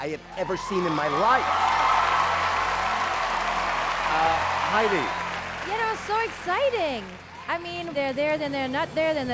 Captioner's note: cheering